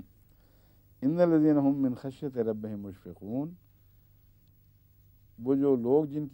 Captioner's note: Arabic